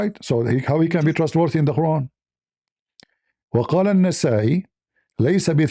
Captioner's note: Arabic